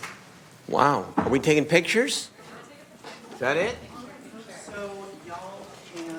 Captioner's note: applause